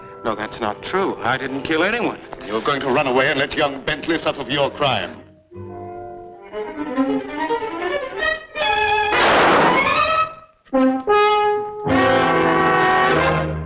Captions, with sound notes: - No, that's not true. I didn't kill anyone. - And you're going to run away and let young Bentley suffer for your crime. (pensive music) (gun firing) (dramatic music)